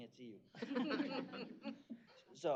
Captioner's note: chuckling